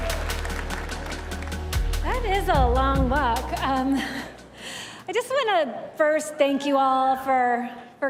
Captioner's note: cheers and applause